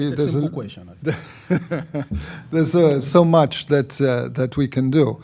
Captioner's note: laughs